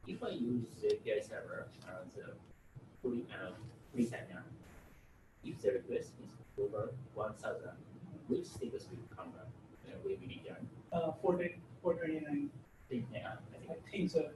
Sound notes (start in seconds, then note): 11.7 speaks from a distance; 13.1 audience member speaks from a distance